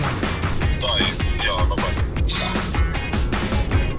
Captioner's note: GPS speaking